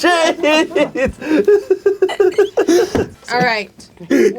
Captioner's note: all continue to laugh